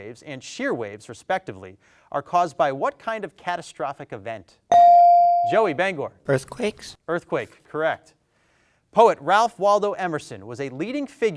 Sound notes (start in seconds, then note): 4.7 bell dings